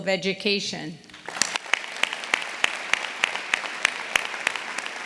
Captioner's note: audience applauding